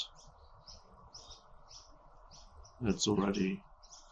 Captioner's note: birds chirping